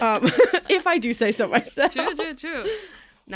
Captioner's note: laughs